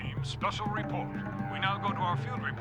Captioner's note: on TV